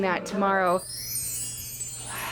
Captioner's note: chimes; whispering; yelling